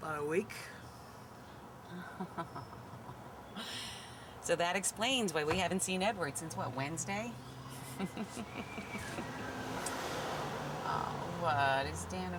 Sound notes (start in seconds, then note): 1.9 laughing; 7.7 laughing